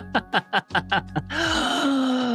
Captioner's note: laughing